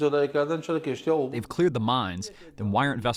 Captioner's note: through translator